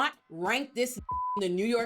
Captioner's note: beep